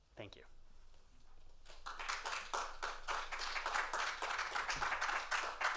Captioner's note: applause